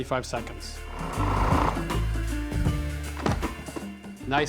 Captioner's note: whirring stops, lid opens